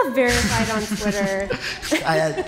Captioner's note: laughter